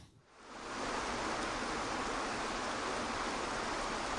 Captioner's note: waterfalls cascading